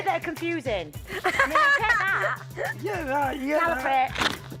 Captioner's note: laughing